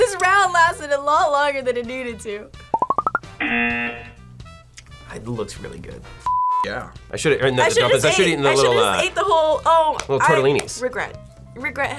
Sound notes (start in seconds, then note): 3.4 buzzer